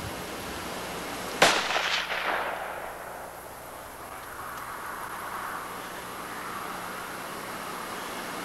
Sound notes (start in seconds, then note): 1.4 gunshot